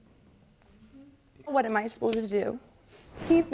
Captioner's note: voice breaking